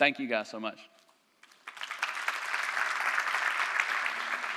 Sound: applause

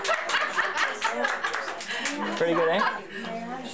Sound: applause

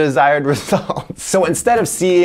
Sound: laughs

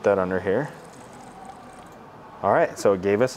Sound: wine pours

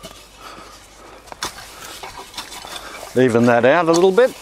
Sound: rake shuffles

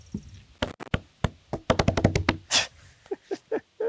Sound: slapping wood; laughs

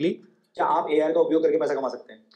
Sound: ai voice

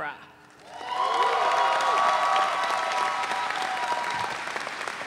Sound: audience cheering

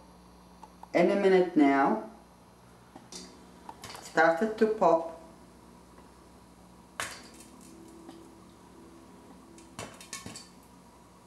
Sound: popcorn Poping Noise

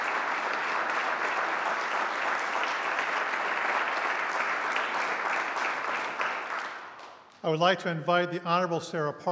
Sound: applause

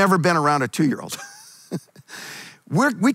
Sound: chuckles

